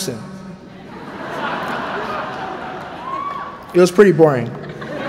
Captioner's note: laughter